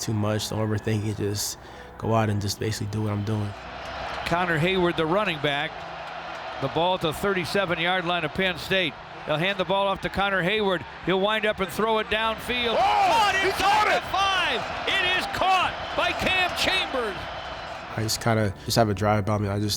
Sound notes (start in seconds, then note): 3.7 crowd cheering; 12.8 man shouting